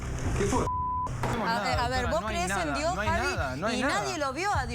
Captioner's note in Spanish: Bip